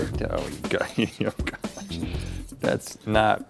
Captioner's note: Rhett mumbles